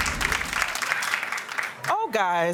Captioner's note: audience applauding